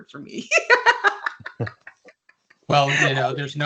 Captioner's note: laughs